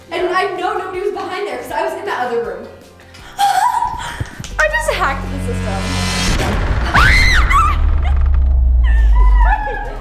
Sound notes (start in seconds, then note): 3.3 laughs; 6.3 suspenseful music; 6.5 door creaking; 6.9 screams